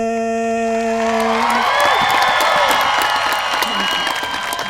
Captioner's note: cheers from crowd